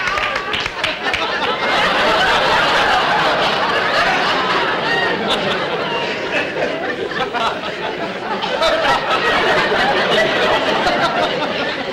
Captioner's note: audience Laughing